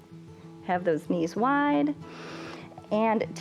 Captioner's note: inhales